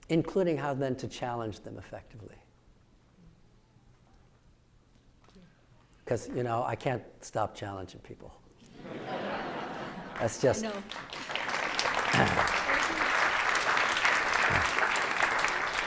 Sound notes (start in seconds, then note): 8.7 audience laughing; 11.5 audience applauding